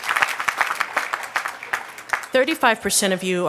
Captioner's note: applause